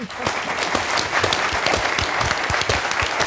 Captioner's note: applause